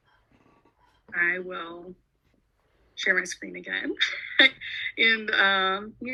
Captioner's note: chuckles